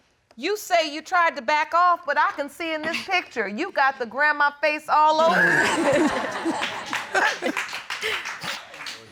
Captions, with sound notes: You say you tried to back off, but I can see in this picture, you've got the grandma face all over you. [all laugh]